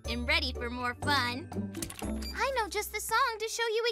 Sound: beeps

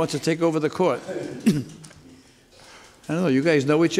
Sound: laughing

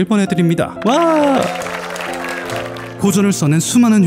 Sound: applause

